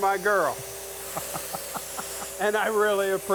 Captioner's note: both laughing